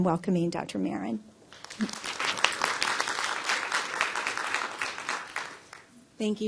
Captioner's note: applause